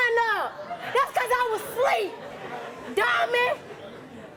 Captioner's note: audience laughing